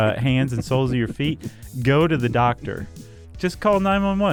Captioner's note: laughs